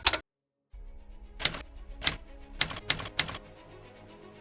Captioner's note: typewriter deletion noises; typewriter noises